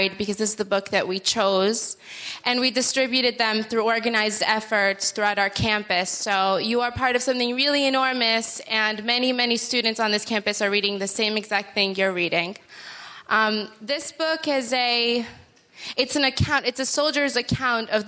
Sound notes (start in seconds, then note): none